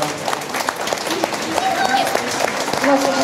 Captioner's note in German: Jubel